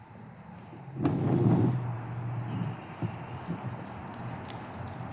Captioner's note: chair scrapping